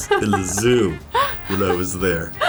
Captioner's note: Alison laughing